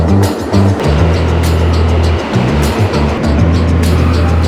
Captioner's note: train engine roars